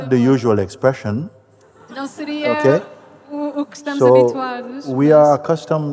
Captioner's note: laughter